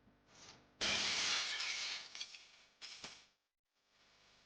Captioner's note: glass breaking